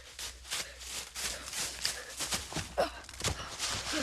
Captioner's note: panting